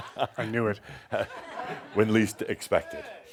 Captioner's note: chuckles